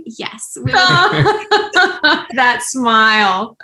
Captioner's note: laughter